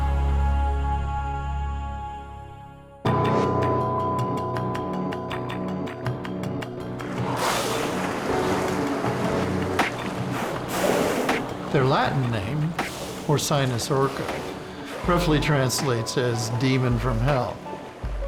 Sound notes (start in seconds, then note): 3.2 tense music; 7.6 splashing and spouting